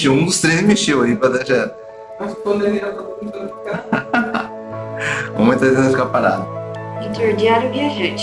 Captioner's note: laughter